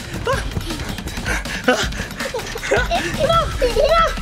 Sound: panting

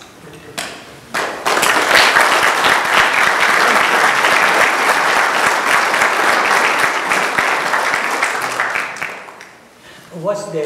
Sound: applause

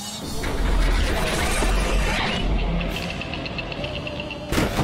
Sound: machine clanging

